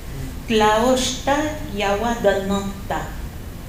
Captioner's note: non-english speech